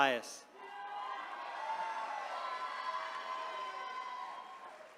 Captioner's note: attendees cheering